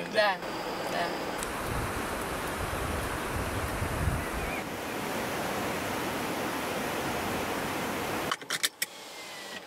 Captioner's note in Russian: шум воды